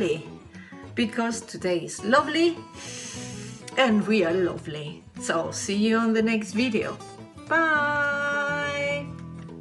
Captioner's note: sniffs